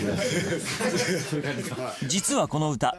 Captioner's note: all chuckle